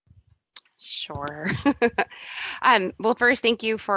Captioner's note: laughs